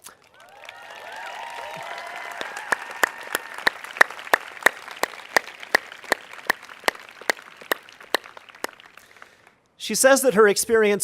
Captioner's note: cheers and applause